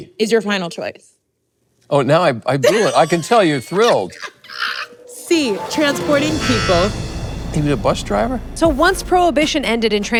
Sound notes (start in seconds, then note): 2.6 Kathryn laughs; 4.9 beeper buzzes